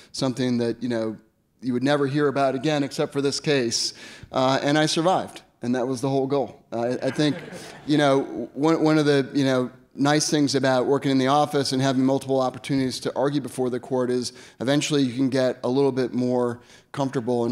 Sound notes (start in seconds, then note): 7.0 audience laughs